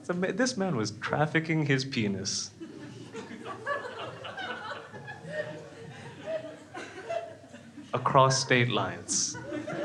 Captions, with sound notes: So this man was trafficking his penis, (crowd laughs) across state lines.